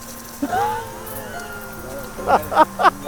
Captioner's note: laughing